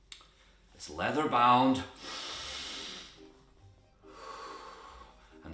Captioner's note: inhales and exhales